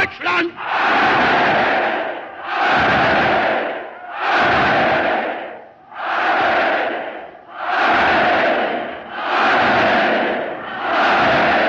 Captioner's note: cheering